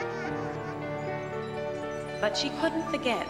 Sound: chimes tinkling

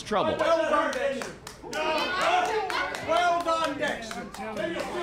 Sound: clapping

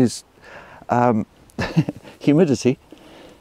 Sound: chuckles

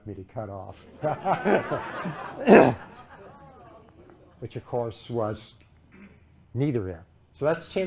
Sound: laughter

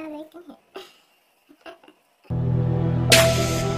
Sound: laughs; intro music

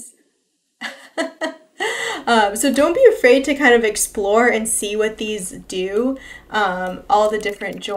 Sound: laughs

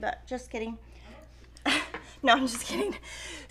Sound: chuckling

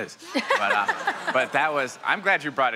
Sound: laughs; audience laughs

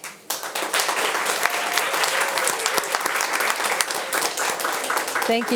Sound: audience applauding

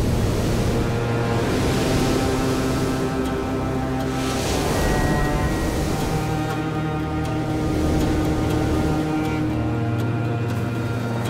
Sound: waves crashing

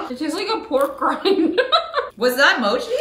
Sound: laughing

